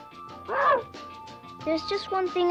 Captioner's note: Arrow barks